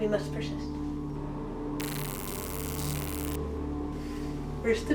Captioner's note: taser zapping